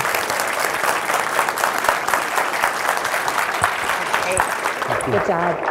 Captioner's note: applause